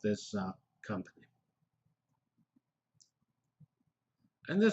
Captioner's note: pause